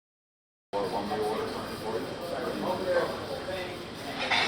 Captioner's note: people chattering